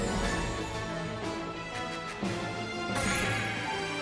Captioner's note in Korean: 두근